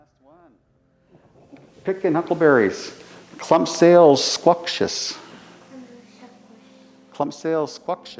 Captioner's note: speaks Hul'qumi'num